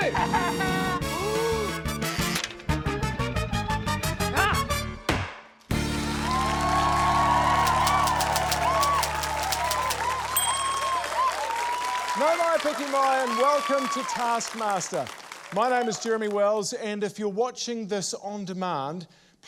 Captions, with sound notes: - Ha ha ha! - (GASPS) - Ah! (STAMP THUDS) (CHEERING, APPLAUSE) (TYPEWRITER KEYS CLACK) (DING!) - Nau mai piki mai, and welcome to Taskmaster. May name is Jeremy Wells, and if you're watching this on demand,